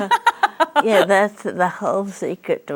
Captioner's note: laughs